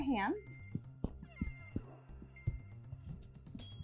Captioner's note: machine beeping